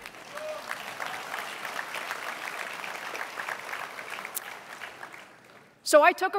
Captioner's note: applause